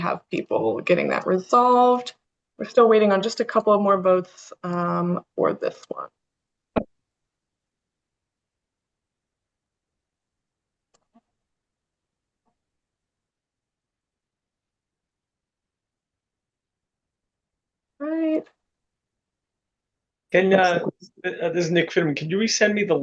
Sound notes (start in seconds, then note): 6.8 pause